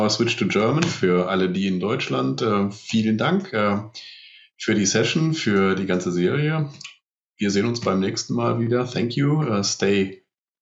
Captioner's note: speaking german